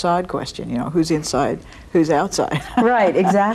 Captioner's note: laughs